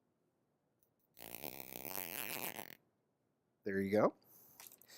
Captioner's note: zipper sound